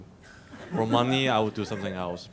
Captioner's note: audience laughs